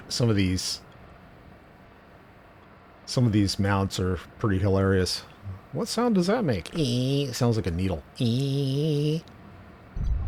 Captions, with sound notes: Some of these--some of these mounts are pretty hilarious. What sound does that make? [mouthed noise] Sounds like a needle. [mouthed noise]